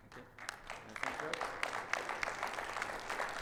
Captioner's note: audience clapping